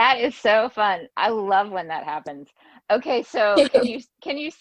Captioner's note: laughs